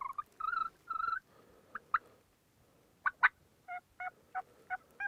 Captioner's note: turkey calling continues